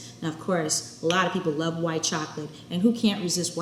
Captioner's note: none